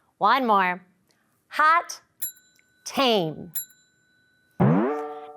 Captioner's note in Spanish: tintineo de audio